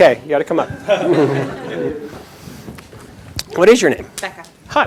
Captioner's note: chuckles